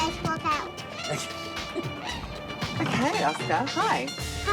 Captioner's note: laughs